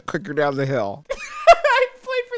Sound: laughs

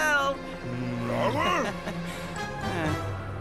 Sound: speaking Brislovian; awkward chuckle

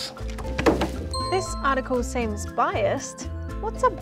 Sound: phone chimes

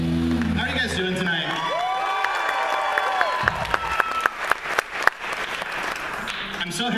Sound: applause

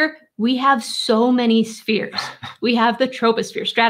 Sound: chuckling

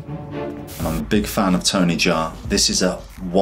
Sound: air whooshes

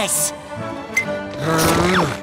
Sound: grunting

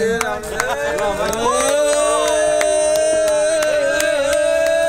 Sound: cheers

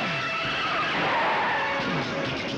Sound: tires squealing

